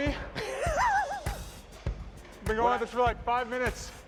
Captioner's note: laughs